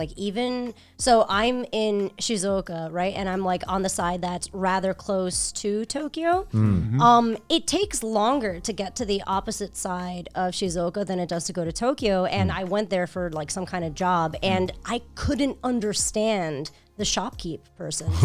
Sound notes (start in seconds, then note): 6.5 guys humming in agreement